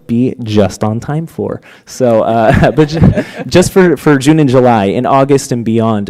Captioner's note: laughter